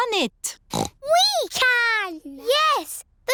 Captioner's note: snorts